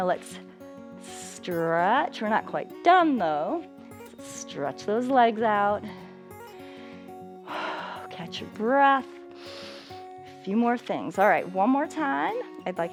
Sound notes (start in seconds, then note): 9.3 exhales; 9.3 inhales